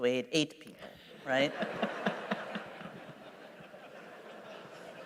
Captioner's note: laughter